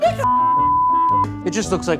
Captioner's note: laughing